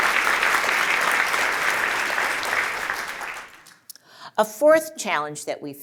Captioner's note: applause